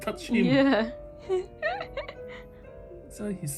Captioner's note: laughing